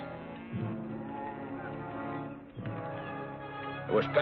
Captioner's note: cows mooing